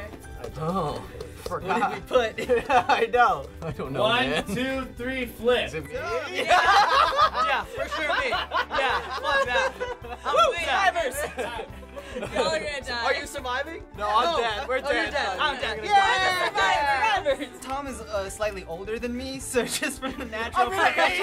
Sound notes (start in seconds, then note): 2.2 laughs; 6.2 laughs